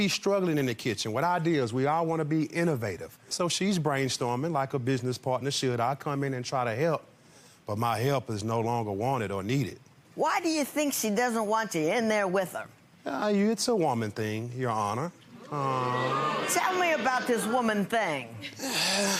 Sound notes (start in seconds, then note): 15.4 audience boo's and groans